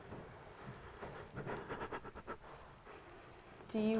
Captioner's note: shivering